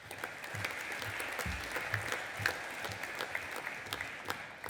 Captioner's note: audience applauding